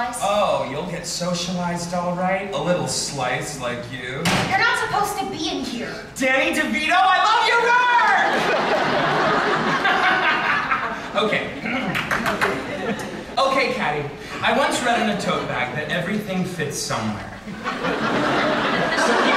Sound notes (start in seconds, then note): 11.4 giggles; 11.6 clears throat and claps